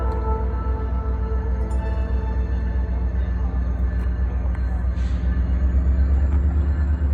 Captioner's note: music ends... Clanging train bell can be heard approaching